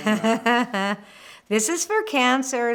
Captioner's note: laughter